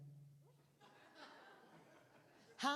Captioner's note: laughter